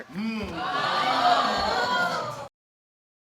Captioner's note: audience exclaiming